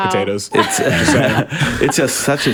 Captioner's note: group laughs